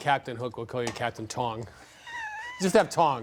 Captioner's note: laughs